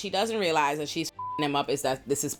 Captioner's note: beep